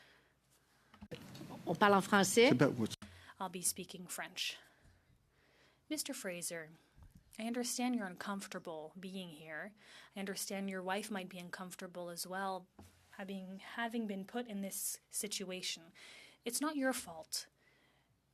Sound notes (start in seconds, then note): 3.0 speaking French